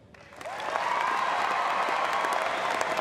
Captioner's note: applause